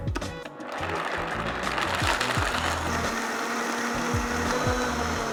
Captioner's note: blender whirring